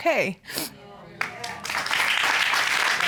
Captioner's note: applause